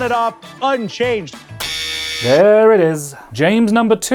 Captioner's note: buzzer